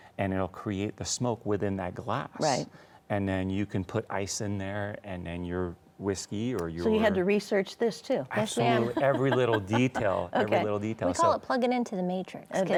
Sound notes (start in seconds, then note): 8.5 laughs